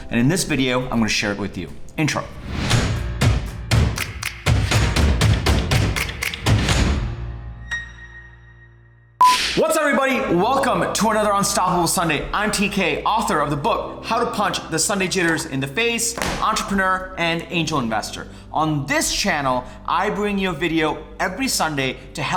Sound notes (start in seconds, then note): 2.6 upbeat percussive music; 2.8 slam; 7.4 bing